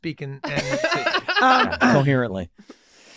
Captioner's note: group laughing